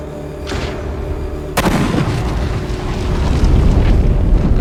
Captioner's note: gun firing